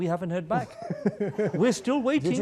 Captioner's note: laughing